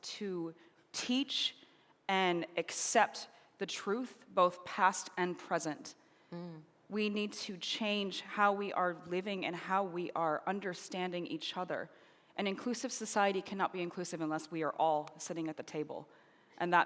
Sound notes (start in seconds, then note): none